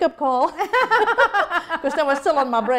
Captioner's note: laughter